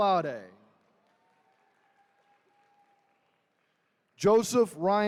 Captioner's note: attendees cheering